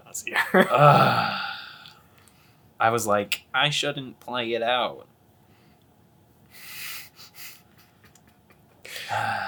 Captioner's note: sigh